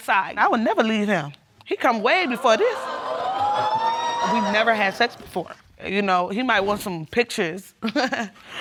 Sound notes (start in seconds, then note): 1.9 audience whooping; 7.8 chuckling